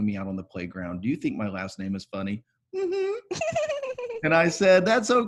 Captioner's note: giggling